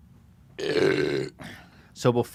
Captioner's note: Bud Light burp